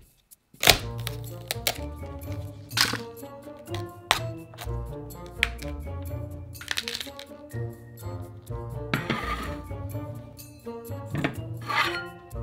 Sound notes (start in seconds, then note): 0.6 stems breaking